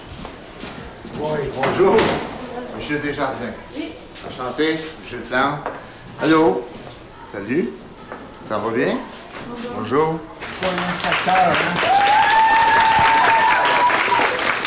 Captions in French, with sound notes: - Bonjour. Monsieur Desjardins? - Oui. - Enchanté. Gilles Plante. Allô! Salut. Ça va bien? - Bonjour. - Bonjour. (acclamations)